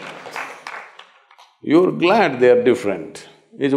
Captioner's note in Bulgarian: ръкопляскания